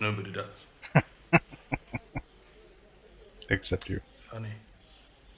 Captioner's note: chuckling